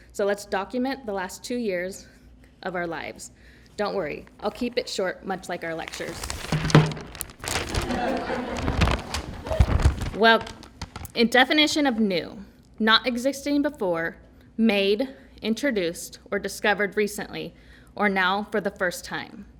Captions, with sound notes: So let's document the last two years of our lives. Don't worry I'll keep it short much like our lectures. [ laughter ] Well, in definition of new, not existing before, made, introduced or discovered recently or now for the first time.